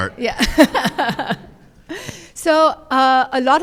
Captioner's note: laughter